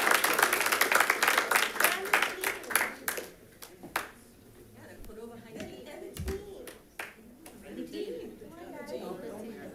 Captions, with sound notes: (background chatter) - Cordova High Team.